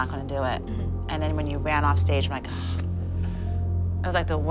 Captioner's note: gasps